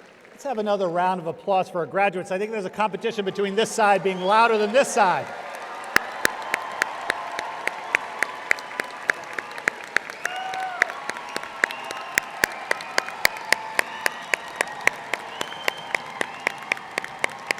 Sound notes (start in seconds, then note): 0.0 audience applauding; 5.9 audience applauding